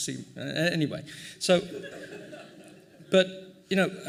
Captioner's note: laughing